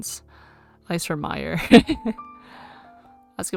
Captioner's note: laughs